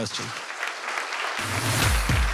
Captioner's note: audience applause